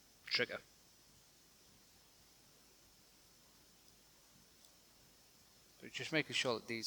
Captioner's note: silence